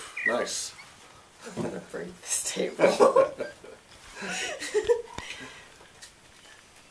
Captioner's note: laughter